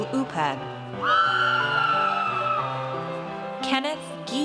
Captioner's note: audience cheers